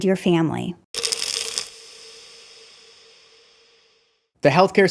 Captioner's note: pills rattling